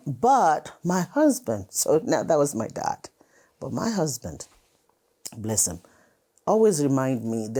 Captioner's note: none